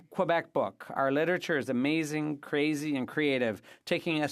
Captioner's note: speaking French